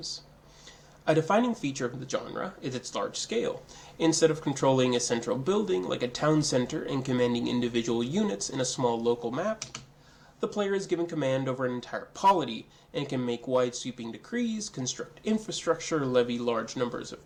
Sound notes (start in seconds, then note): 9.3 double click